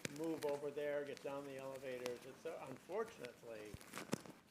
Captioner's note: chatter